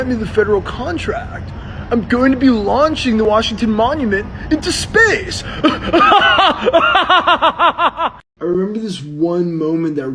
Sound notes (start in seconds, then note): 5.4 laughs